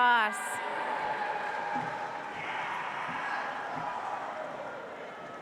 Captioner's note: audience applauds